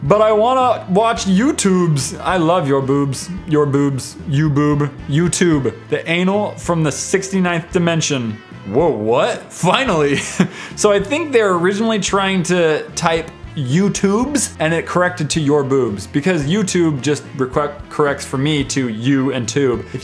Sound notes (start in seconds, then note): 9.9 chuckles